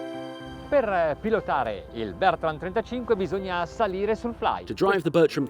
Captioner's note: speaking in foreign language